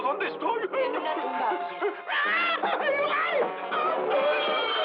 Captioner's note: yelping